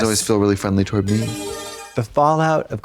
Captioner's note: bright chime